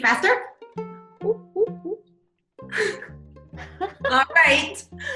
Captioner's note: laughing